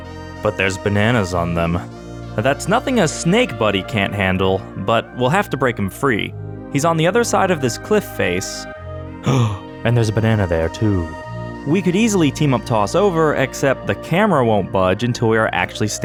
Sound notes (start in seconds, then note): 9.2 gasp